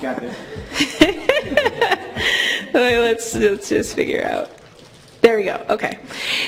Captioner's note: laugh